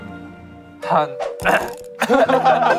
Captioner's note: ahem